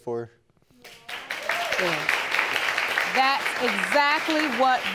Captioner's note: audience applauding